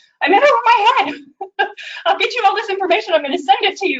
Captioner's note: laughing